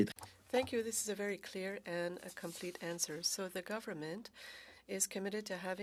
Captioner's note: speaking French